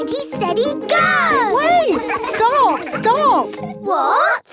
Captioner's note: all laughing